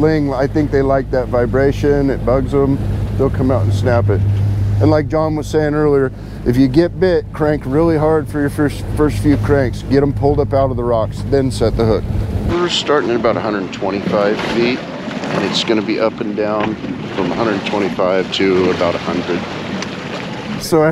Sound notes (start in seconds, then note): 13.4 boat engine running